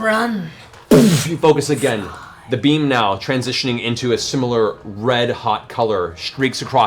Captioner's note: boof